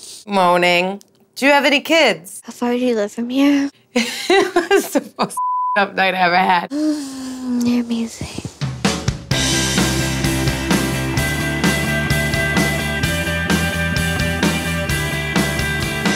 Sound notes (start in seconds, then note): 4.0 laughs; 8.8 upbeat rock music